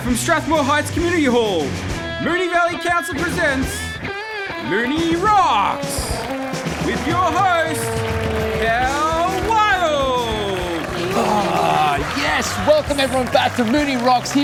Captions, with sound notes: from Strathmore Heights Community Hall, Moonee Valley Council presents Moonee Rocks, with your host, Cal Wild! [audience applauding] - Ah! Yes, welcome, everyone, back to Moonee Rocks